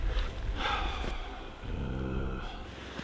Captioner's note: low growl